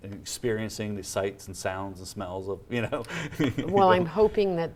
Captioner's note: laughs